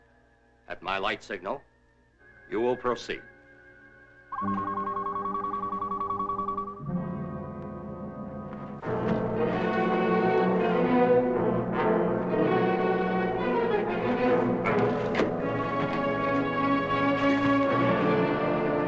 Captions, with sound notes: At my light signal, you will proceed. (beeping) (suspenseful music)